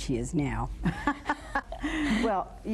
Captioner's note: both laugh